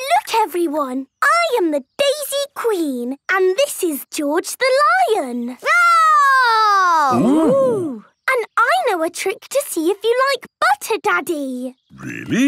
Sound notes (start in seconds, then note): 7.0 roaring